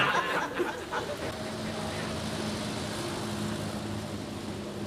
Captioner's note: audience laughing; engine chugging